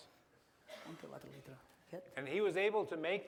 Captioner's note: non-english speech